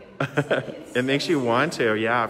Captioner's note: laughing